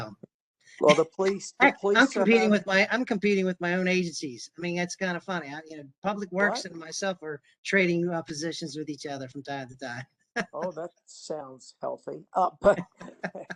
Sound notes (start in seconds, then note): 10.4 laughter